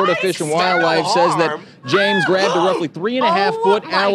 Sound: screams

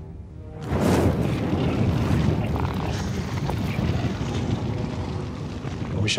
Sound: ominous music; flames burning

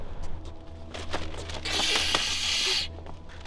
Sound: vampire noises

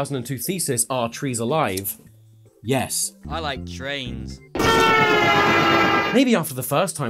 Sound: train horn

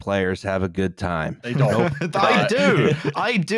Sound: laughs

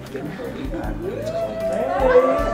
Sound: group chatters

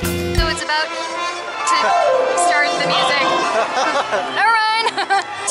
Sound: laughter

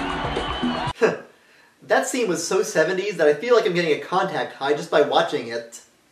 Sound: chuckles

